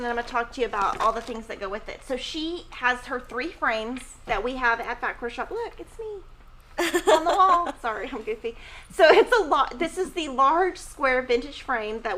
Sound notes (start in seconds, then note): 6.8 laughing